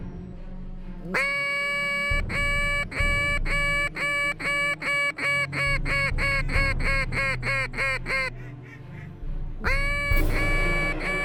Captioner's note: duck calls